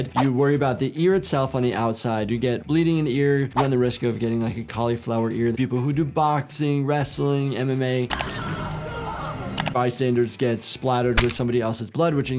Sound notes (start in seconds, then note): 8.1 low tense music; 8.1 witness screaming